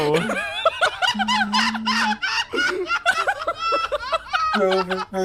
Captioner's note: laughs